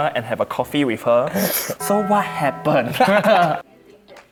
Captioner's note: sips